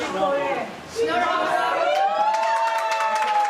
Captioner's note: cheers